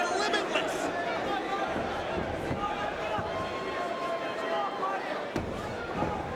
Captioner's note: crowd chattering